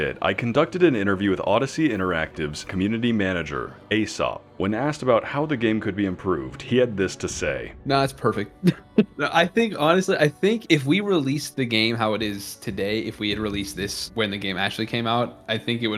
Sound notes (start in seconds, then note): 8.6 chuckles